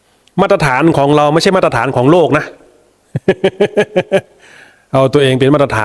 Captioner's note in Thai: เสียงหัวเราะ